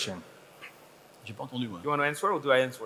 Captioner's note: speaking foreign language